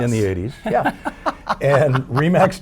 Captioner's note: laughing